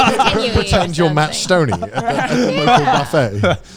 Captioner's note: all laughing